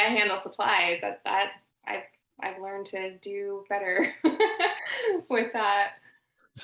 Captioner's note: laughing